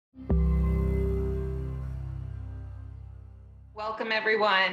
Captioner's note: logo chiming